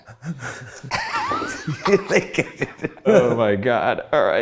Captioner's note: laugh